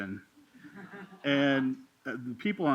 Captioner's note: laughter